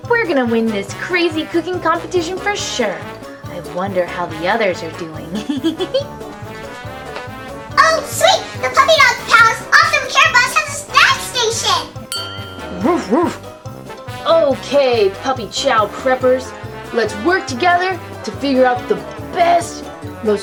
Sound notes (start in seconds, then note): 5.2 giggles; 12.8 dog barking